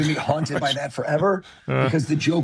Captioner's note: chuckles